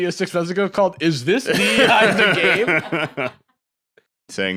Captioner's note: laughs